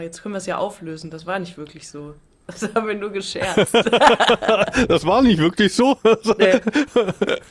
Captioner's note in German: gelächter